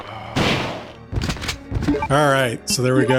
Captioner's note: gunshots